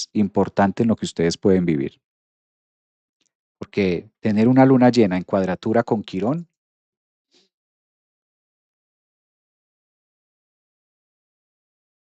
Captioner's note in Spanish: resoplido